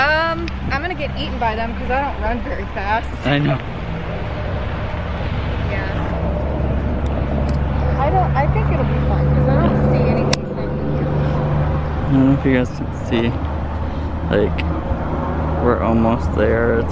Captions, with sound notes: - I'm gonna get eaten by them 'cause I don't run very fast. - I know. (traffic sounds) - I think it'll be fun, 'cause I don't see anybody standing there. - I hope you guys can see. We're almost there,